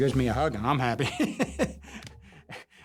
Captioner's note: chuckles